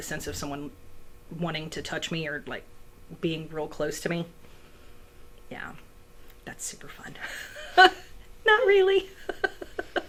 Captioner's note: laughs